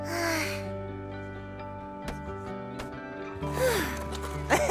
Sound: laughs

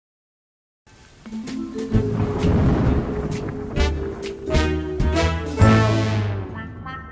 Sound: whimsical music; thunder crashes

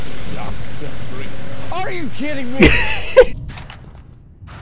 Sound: laughter

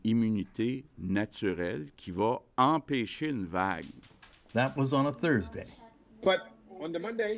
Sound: speaking French

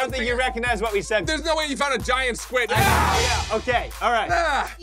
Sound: screams; high pitched squeal

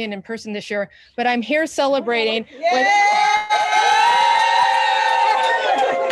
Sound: everyone cheering

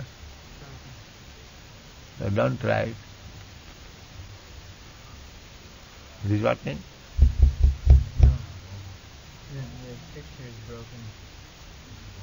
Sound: conversation about light or something in background

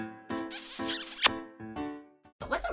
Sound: recorded kiss

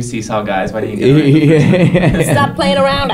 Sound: laughter drowns out speech

